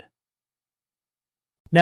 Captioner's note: pause